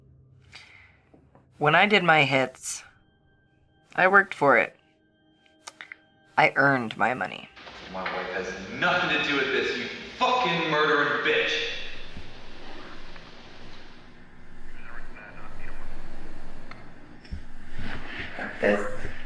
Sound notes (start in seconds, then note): 14.7 police radio